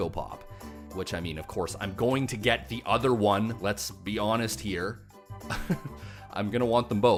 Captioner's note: laughs